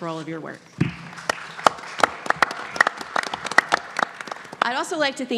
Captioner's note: audience clapping